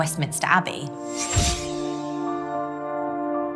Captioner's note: camera flash